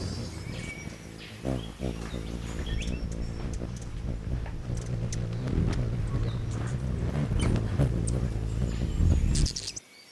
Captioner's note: bird's wing flapping; birds chirping; bird singing and chirping; bird's wing flapping